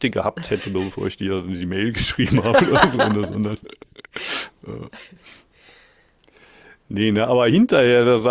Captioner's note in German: gelächter